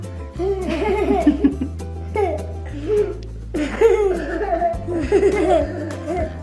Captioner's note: giggle